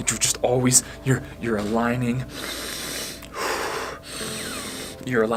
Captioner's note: breathes loudly